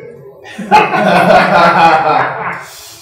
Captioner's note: laughter